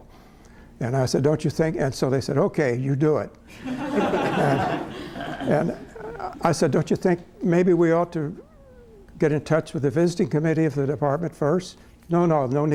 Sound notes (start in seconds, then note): 3.5 laughter